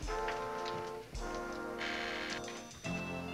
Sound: buzzer

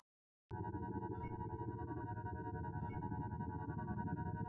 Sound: spaceship sounds

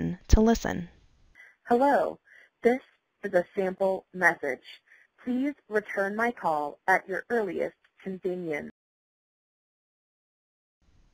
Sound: voicemail message plays

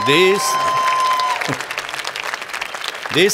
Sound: cheers and Applause

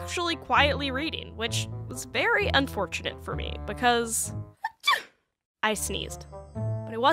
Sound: sneeze

